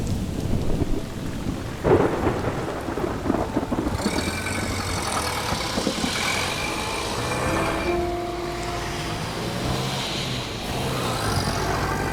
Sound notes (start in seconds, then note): 4.1 car passing; 5.7 slow mysterious music